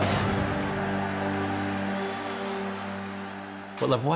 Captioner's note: <i> crowd yelling</i>; <i> crowd cheering</i>